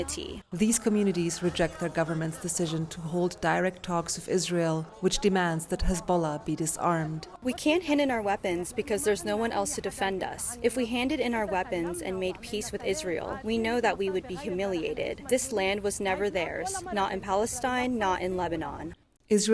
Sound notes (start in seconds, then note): 7.6 through translator